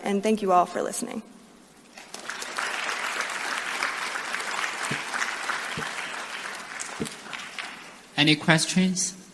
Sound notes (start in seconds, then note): 2.0 applause